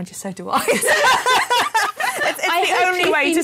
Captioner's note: laughter